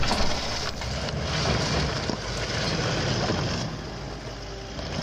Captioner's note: sound of a bunch of clattering small rocks